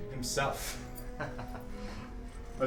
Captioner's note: laughs